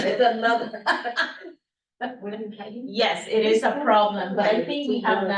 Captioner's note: laughs